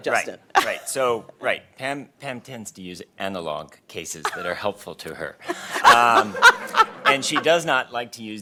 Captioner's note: laughter